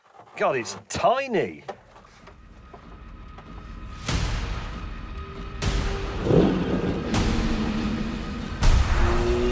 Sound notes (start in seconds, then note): 6.1 engine growling